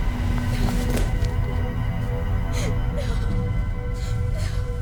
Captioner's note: Mayday sobbing